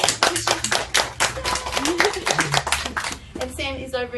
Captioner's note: applause